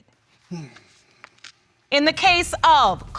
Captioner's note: grunts